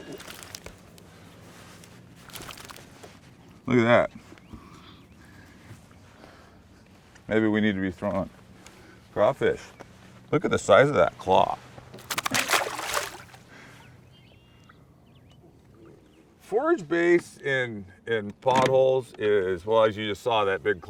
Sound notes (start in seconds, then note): 0.0 fish thrashing; 2.2 fish thrashing; 11.9 fish thrashing; 13.6 fish splashing; 15.2 birds singing